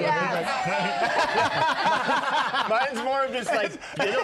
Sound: laughter

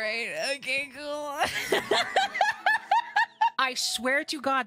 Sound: exhausted Laughter

